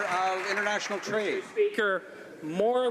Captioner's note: some Applause